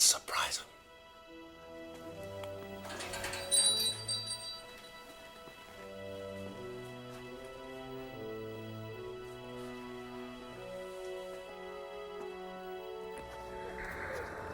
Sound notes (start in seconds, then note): 1.9 suspenseful music; 2.8 bells jingle